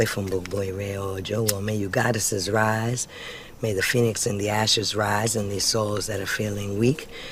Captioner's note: chanting